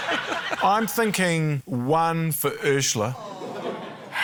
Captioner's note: sighs